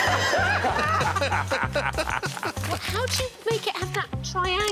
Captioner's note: all laughing